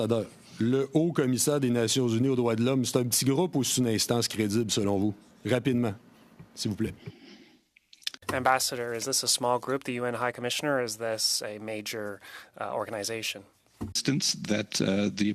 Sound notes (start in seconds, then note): 4.7 speaking French